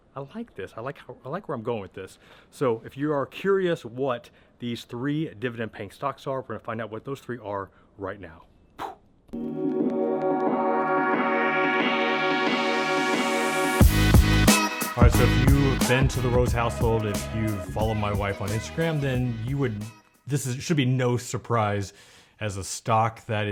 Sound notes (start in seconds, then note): 7.7 breathes; 9.6 upbeat music